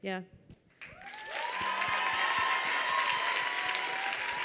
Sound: audience cheers

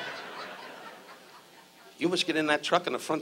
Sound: audience laughs

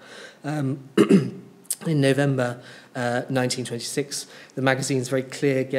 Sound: clears throat

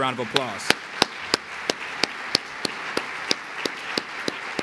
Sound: applause

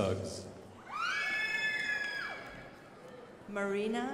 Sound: crowd applauding

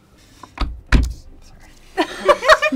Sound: laughter

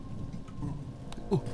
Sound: monster makes noise

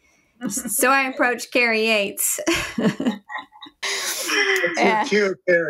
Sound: laughs

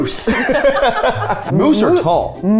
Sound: laughing

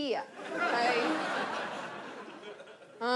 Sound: audience laughs

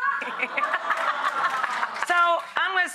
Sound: audience laughs

